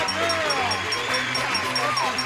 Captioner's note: applause